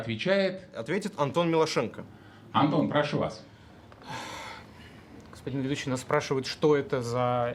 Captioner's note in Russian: вздыхает